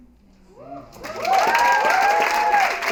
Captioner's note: cheering and applause